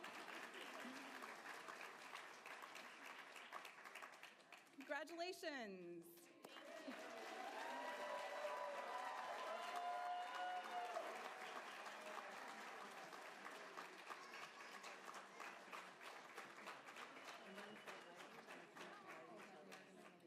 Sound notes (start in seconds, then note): 7.7 applause